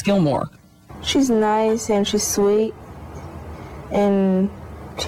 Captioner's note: talking